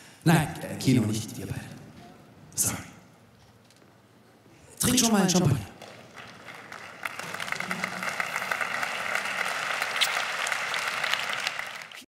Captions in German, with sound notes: Nein, Kino, nicht wir beide. Sorry! Trink schon mal einen Champagner. [Applaus]